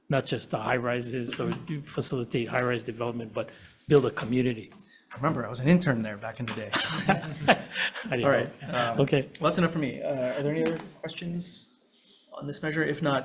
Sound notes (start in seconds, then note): 6.7 laughs